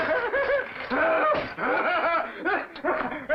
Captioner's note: clocks smashing; deranged laughter continues